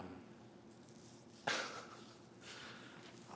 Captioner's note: chuckles